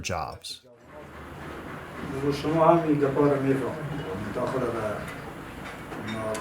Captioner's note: speaking in a foreign language